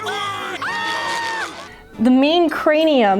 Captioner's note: screaming